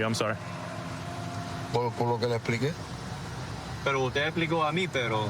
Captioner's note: speaking spanish